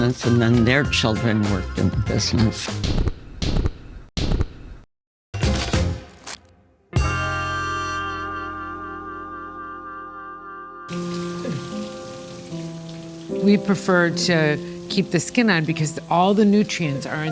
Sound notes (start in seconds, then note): 10.9 water rushing; 11.0 gentle music